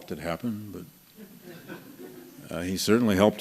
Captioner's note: laughter